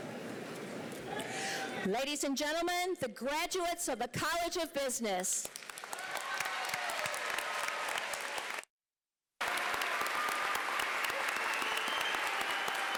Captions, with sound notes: Ladies and gentlemen, the graduates of the College of Business. [APPLAUSE]